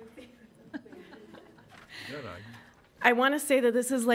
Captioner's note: laughs